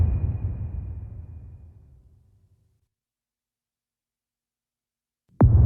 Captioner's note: dramatic sound